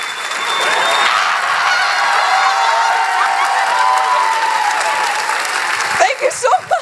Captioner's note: applause; cheers